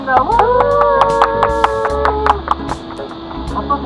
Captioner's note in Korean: 박수